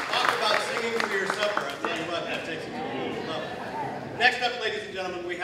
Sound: applause, cheering continues

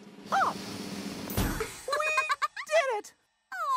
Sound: laughs

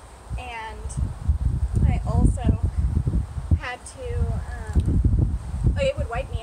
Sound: heavy wind; wind

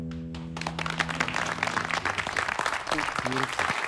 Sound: applause

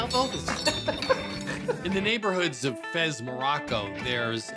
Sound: laughs

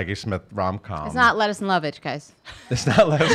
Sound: laughs

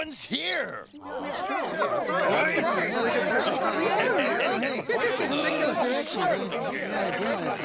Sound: everyone agreeing

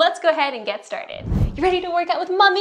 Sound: whooshing

